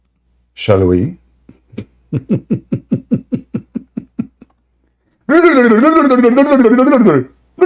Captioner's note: Ketawa